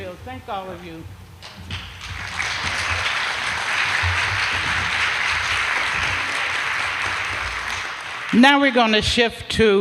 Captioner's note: applause